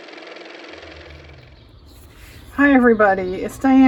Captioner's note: car motor